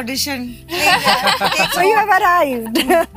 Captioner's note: laughter